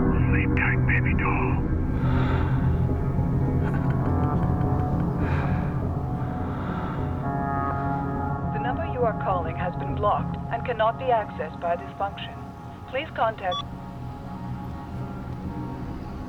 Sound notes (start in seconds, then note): 1.9 man breathing; 3.6 man chuckling; 11.8 beeps